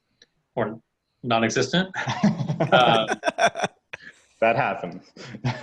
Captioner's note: laughing